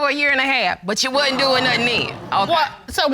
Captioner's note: audience gasping